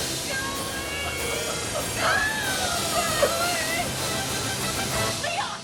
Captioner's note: wailing, Screaming